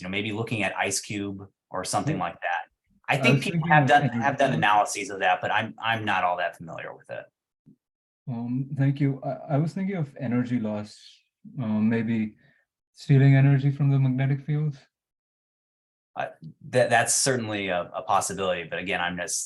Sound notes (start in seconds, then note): 3.2 background chatter